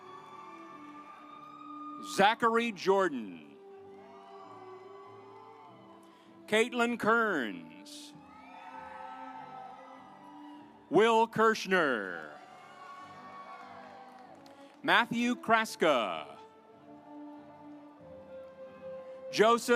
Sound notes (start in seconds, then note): 0.0 audience applauds; 3.8 audience applauds; 8.5 audience applauds; 17.1 gentle music